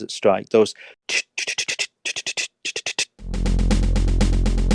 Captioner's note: snare drum beatboxing